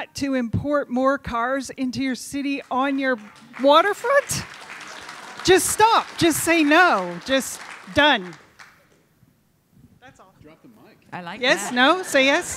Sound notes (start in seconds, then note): 4.5 audience applauding